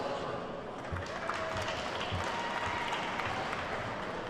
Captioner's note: attendees clapping